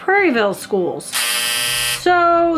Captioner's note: buzzer blares